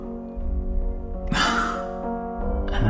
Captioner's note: either a stifled laugh or an exhale of relief, you decide